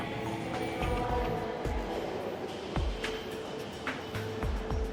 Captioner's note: muffled announcement